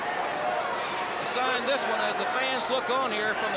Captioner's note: crowd chatter